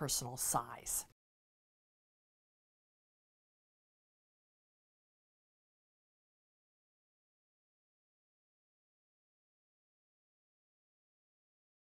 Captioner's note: no Sound Present